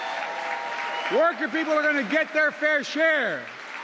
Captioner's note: cheering and applause